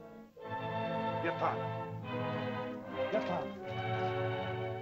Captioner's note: soft ominous music; Akhoba speaks in caveman language; dramatic music